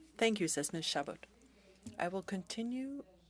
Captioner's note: speaking French